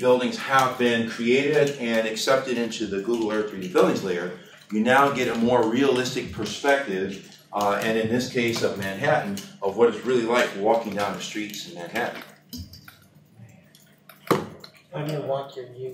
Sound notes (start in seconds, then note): none